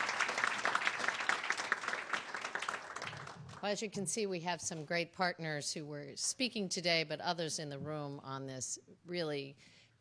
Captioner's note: applause